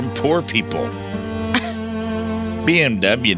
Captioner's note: laughs